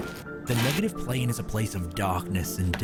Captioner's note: none